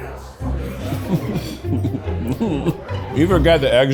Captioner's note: light, whimsical music; chuckles